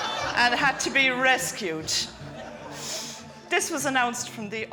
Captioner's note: guests laughing